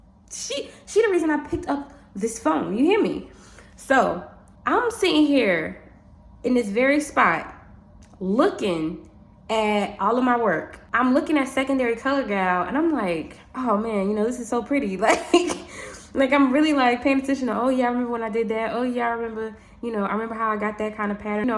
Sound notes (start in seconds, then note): 15.1 laughs